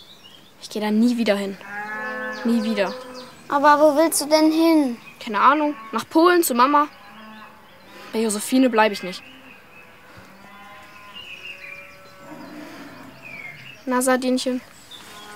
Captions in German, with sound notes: Ich geh da nie wieder hin. Nie wieder. Aber wo willst du denn hin? - Keine Ahnung. Nach Polen, zu Mama. Bei Josefine bleib ich nicht. (Vogelzwitschern) Na, Sardinchen?